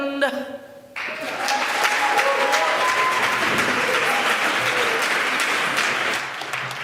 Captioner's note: applause